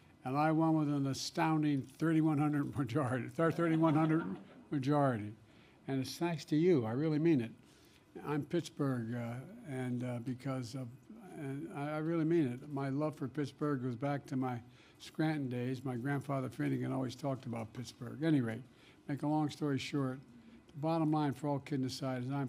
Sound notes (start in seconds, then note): 3.4 laughter